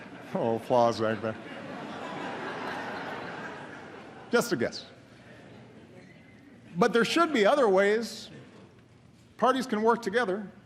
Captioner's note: laughter